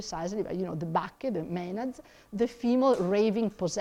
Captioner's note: speaks in foreign language; mutters